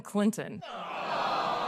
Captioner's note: crowd: Boos and jeers